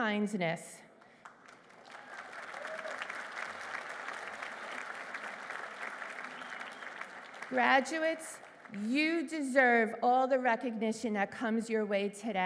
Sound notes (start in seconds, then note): 0.9 applause